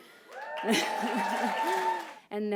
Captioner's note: applause